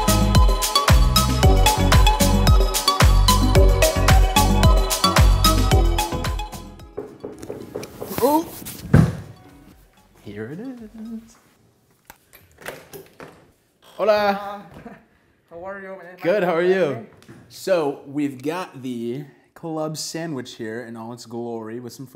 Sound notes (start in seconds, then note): 6.8 door knocking